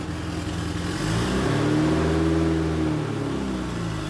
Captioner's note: engine revving